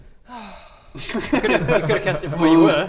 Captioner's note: relieved giggles